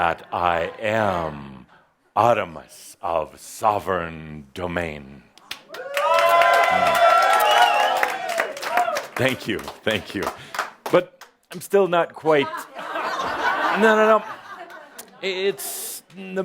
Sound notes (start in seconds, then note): 5.6 audience cheering and some applause; 12.4 laughter